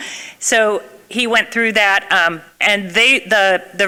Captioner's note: none